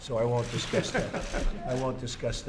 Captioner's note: laughter